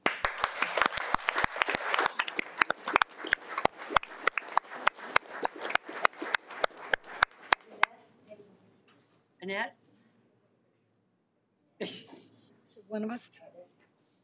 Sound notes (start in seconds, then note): 0.0 audience applauding; 8.6 women chatting indistinctly